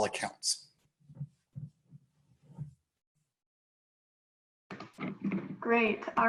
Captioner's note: silence